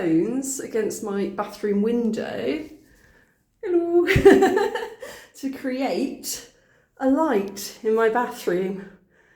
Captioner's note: laughing